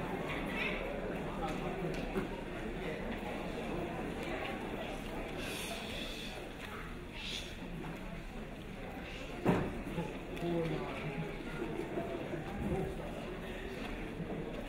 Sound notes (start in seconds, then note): 5.3 crowd shushing